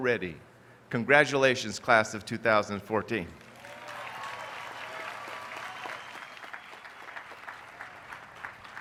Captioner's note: applause